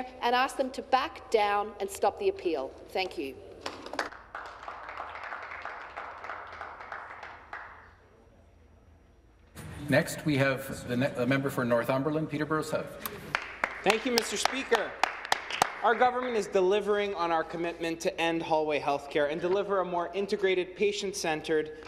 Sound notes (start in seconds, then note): 7.8 some Applause